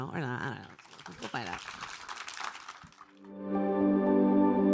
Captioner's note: applause; ambient music